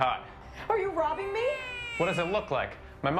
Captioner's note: baby crying